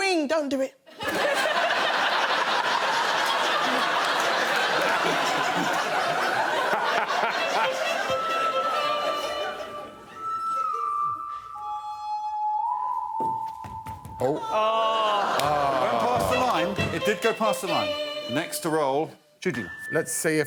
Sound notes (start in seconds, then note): 3.1 laughing; 9.6 tense music playing